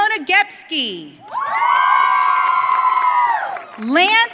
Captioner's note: audience cheering